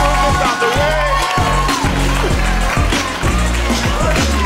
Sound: audience cheers

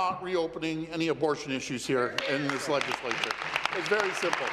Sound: applause

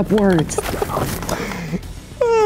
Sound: laughter

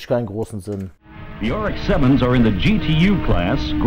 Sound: engine sounds

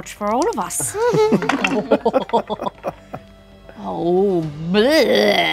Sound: all chuckle

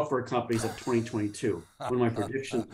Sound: laughing

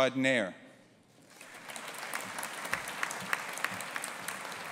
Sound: audience applauding

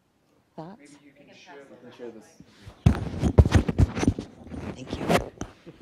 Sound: people chattering

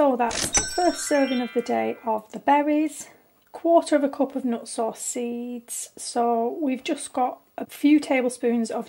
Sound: ding

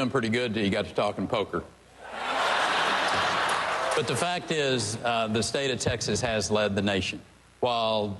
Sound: laughter

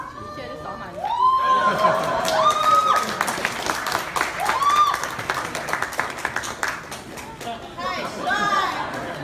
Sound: audience are exclaiming and applauding

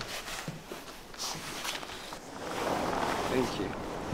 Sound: door sliding

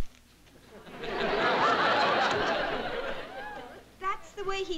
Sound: laughter

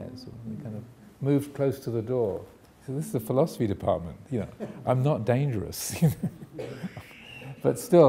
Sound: chuckles

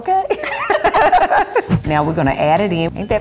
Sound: laughing

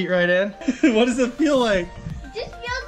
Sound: laughs

